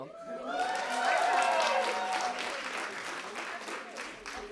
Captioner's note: cheering, applause